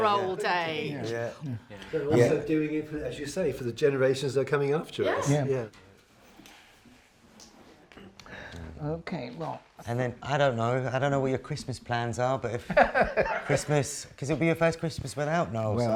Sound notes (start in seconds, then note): 13.5 laughs